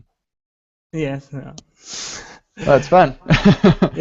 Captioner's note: laughing